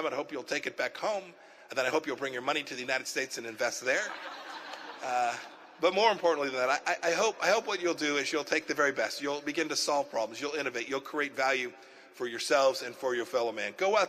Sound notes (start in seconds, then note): 5.5 laughter